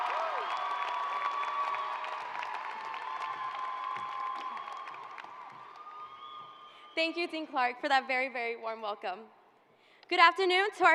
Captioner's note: cheers and applause